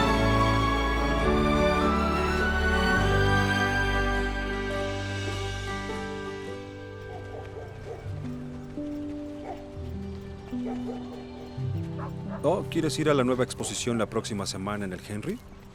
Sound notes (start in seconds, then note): 7.0 Ladridos; 8.2 Música suave